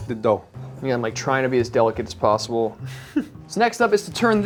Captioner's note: chuckles